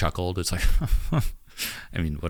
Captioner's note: chuckles